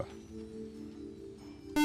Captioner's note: beep